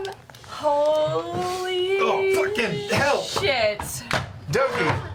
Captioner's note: bangs table